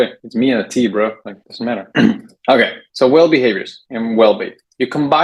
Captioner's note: clears throat